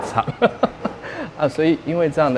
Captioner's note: laughs at the creativity